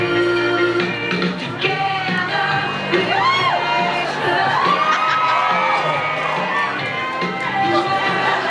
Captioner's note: cheers